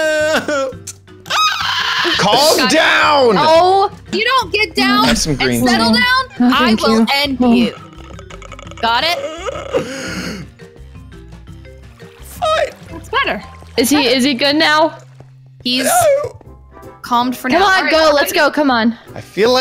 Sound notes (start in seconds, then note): 0.0 sobs; 7.5 moans